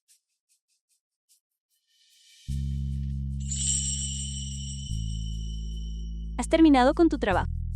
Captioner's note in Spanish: campana